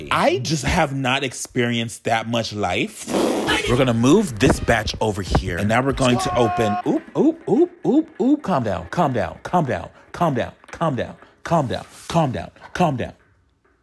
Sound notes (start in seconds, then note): 3.0 lip-trilling; 6.0 groaning